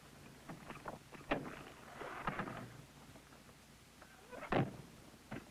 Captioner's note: window closing